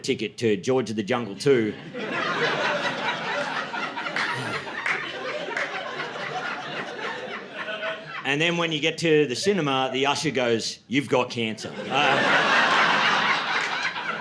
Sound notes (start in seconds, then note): 3.8 laughter; 11.6 laughter